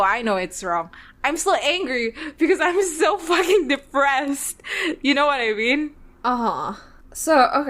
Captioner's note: laughs